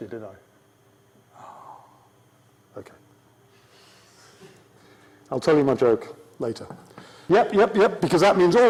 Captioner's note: sigh